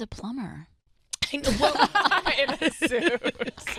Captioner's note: laughing